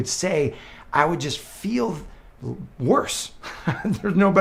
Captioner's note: laughs